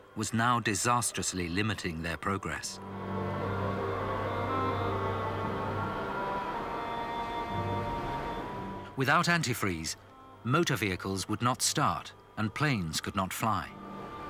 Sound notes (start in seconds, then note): 2.8 wind howling; 4.2 stirring symphonic music